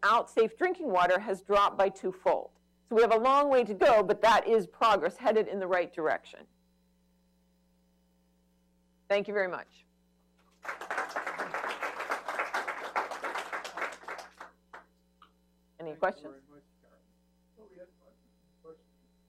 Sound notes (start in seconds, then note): 8.3 applause